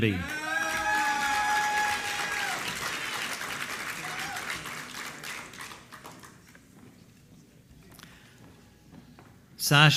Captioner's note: applause